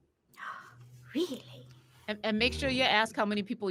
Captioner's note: gasps